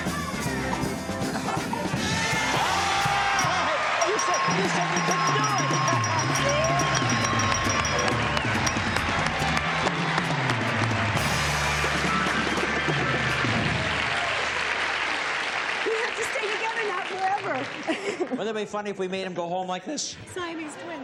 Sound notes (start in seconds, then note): 2.9 cheering; 6.2 applause